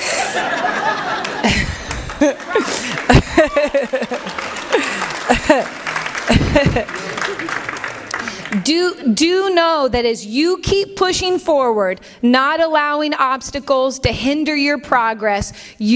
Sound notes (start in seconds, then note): 0.0 laughter; 3.3 applause